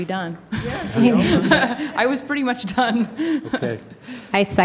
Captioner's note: laughter